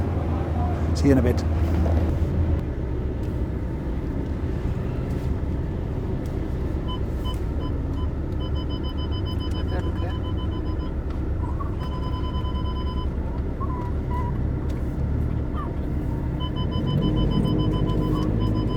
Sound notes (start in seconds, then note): 7.8 car Sensor Beeping